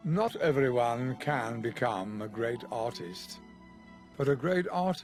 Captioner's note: voiceover